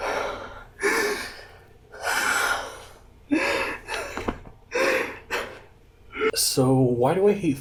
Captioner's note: screaming; crying